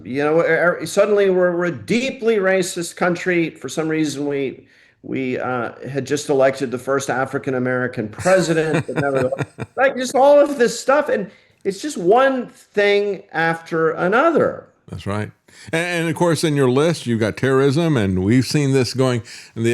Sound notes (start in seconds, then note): 8.1 laughing